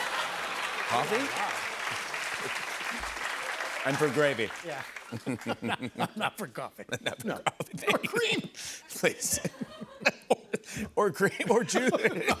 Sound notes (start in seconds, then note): 5.0 laughs; 11.3 laughter